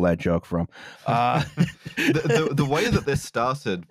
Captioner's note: laughter